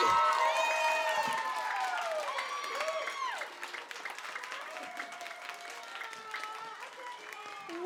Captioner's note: applause